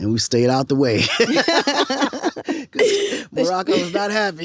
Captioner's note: both laughing